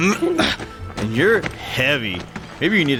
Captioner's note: grunt